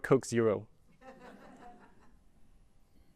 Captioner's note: laughter